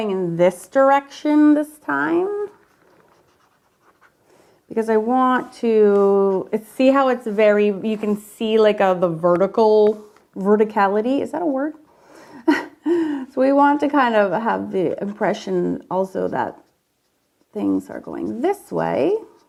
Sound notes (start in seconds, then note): 12.6 laughs